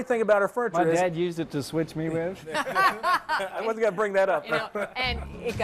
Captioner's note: laughter